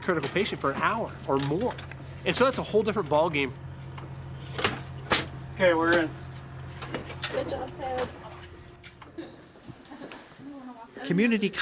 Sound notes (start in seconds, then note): 3.6 engine running and latching sound; 8.3 engine running